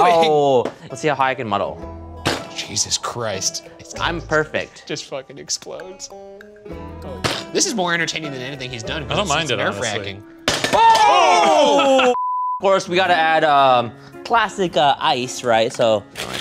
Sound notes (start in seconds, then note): 10.7 yelling; 12.2 screen beeping